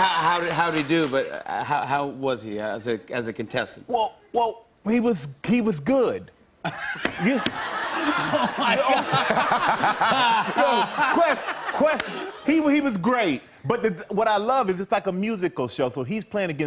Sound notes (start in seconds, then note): 6.6 laughter